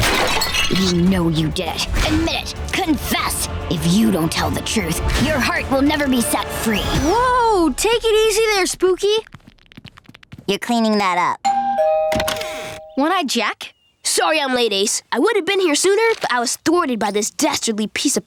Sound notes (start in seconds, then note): 11.4 doorbell ringing